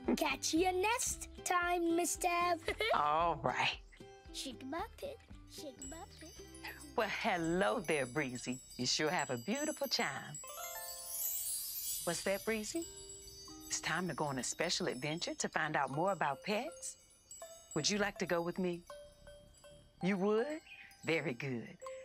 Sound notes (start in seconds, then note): 10.3 chiming